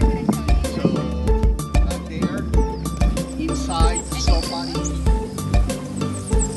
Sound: students talking

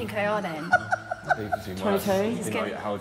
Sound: guy laughing

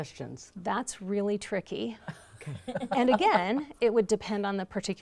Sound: laughter

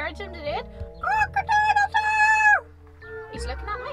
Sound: cock-a-doodle-doo

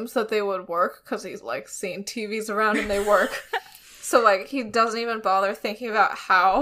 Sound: laughs

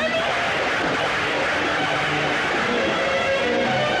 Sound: thunder Rumbling

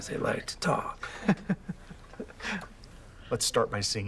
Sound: Thomas chuckles

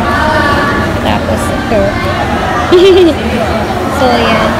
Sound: giggles

